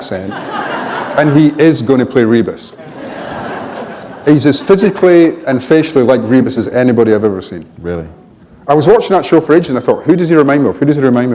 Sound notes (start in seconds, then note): 0.2 laughter; 2.7 laughter